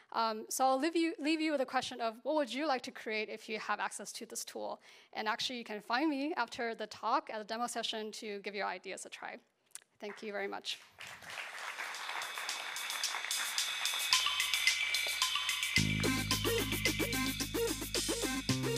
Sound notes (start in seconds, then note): 10.7 applause